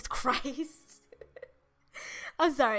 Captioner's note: chuckles